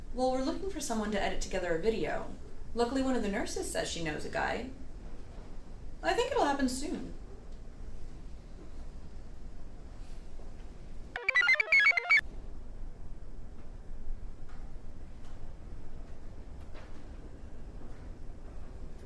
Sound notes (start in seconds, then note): 11.2 computer chirps